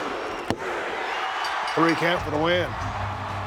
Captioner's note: audience cheering